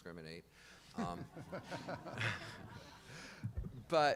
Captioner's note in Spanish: Risas